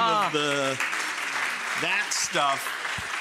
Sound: clapping continues

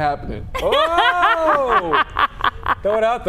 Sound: laughing

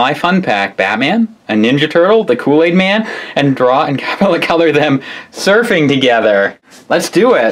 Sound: laughs

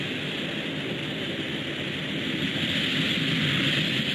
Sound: none

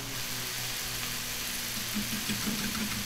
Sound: sizzling in skillet

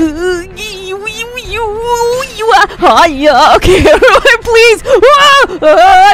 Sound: panic noises

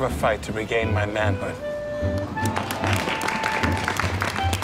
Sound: applause

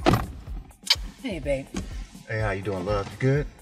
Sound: lips smacking

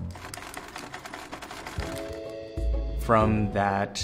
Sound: air clacks

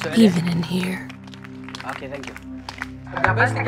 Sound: applause

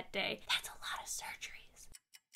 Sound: whispering

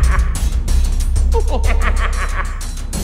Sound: skeleton laughter; skeleton snickering

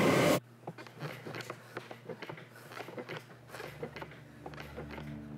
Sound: creaking of the bed

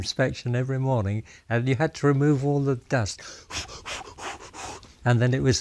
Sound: blows air

